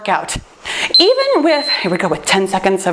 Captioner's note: timer beeps